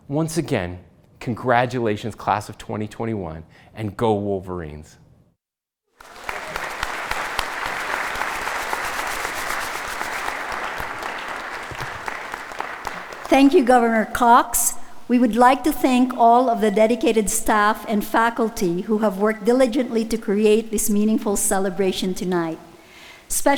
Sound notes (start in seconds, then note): 6.0 audience applauding; 6.3 pom-pom rustling